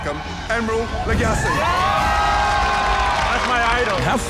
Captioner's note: crowd cheering